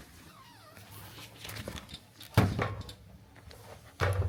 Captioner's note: door squeaks softly